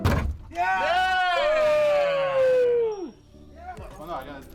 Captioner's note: multiple Voices